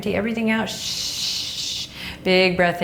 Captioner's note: shushing